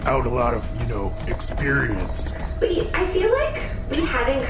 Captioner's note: none